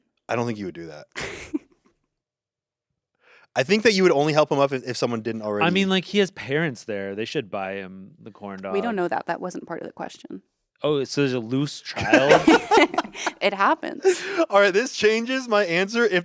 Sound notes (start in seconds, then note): 11.7 everyone laughs